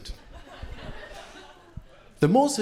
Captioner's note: crowd laughing